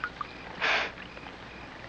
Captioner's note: scoffs